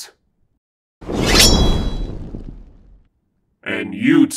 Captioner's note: no response as sword unsheathes and fire crackles